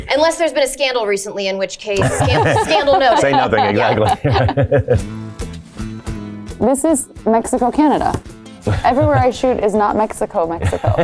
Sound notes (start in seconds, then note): 2.0 Blake and Paul chuckling; 5.1 upbeat guitar music